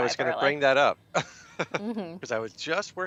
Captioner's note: chuckles